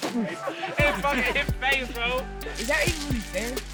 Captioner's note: laughing